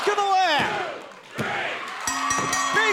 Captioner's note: bell ringing